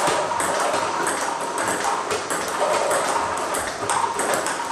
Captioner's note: ball ping pong hitting continues